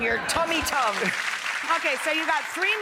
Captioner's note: audience applause